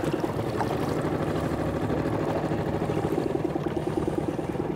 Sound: boat engine purring

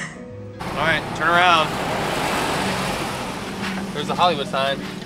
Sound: giggling; car zooming

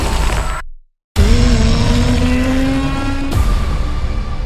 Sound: roaring; dramatic music

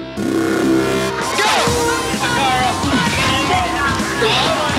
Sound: air horn blows

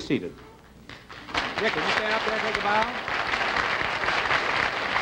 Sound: applause

